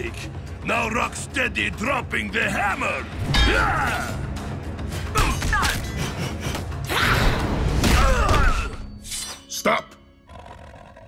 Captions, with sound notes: Now Rocksteady dropping the hammer. [grunting] Stop.